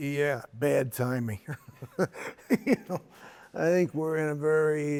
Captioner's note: laughs